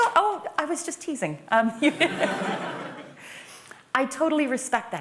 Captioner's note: laughter